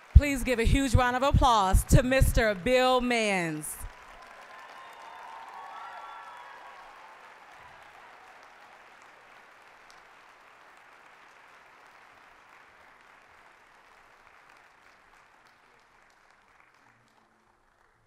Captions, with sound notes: >> Please give a huge round of applause to Mr. Bill Manns. (applause, cheering) (applause)